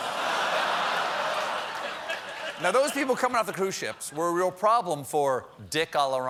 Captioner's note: laughter